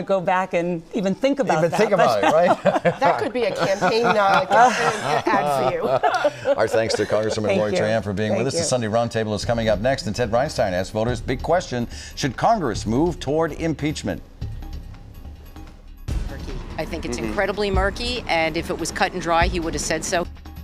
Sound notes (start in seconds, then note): 8.2 laughter